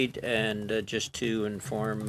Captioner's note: speaking in French